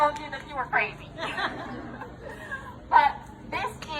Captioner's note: audience laughing